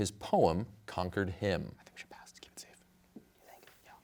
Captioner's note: whispers